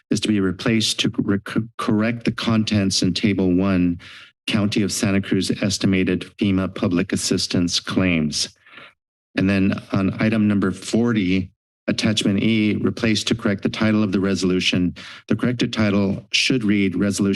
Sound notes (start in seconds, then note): 4.0 inhales; 8.6 inhales